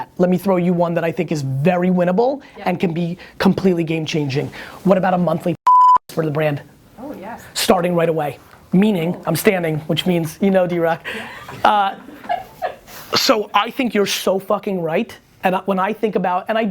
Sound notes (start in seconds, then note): 7.0 voiceover; 12.1 woman laughing